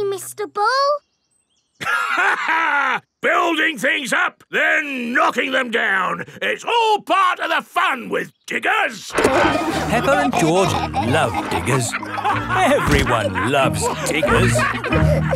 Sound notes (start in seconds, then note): 1.8 laughs; 9.1 peppa and george laughing